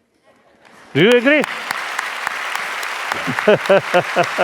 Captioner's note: applause; laughs; applause